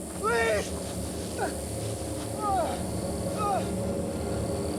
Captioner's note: moans